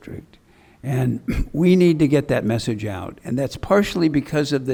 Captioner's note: clears throat